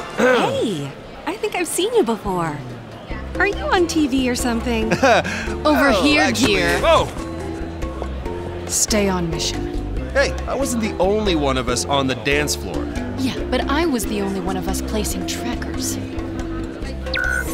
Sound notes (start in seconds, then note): 4.9 chuckles